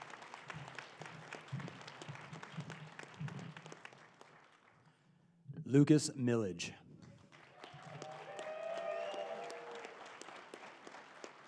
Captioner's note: applause